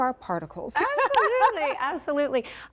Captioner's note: laughing